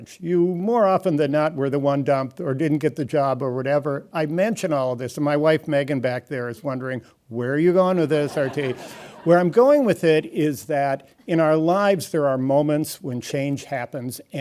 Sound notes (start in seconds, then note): 8.2 audience laughing